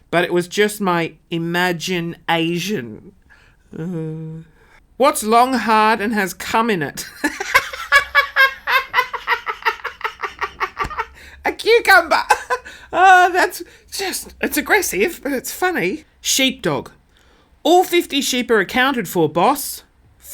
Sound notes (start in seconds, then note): 7.0 laughing; 12.6 sighs